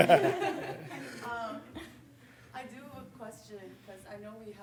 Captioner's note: audience chuckling